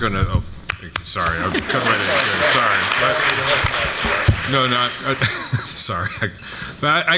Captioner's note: applause